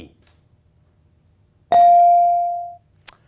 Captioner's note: ding chimes